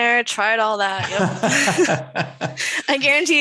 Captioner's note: chuckles